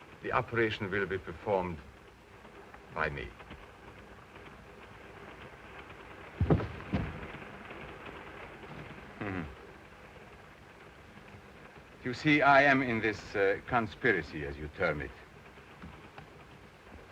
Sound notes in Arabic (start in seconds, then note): 6.3 تعثر الأقدام; 9.2 هارتز يضحك